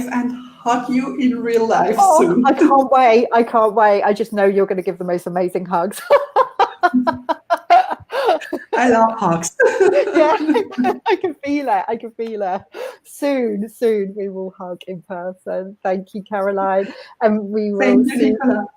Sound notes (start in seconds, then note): 6.0 laughing